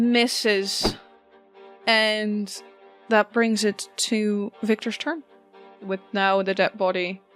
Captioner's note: whoosh